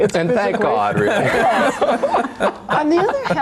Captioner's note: all laughing